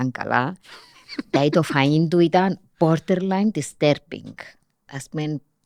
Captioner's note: he laughs